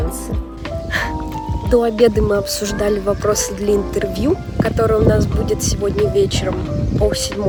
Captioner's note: sigh